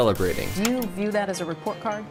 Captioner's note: static buzzes